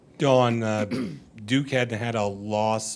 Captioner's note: clearing throat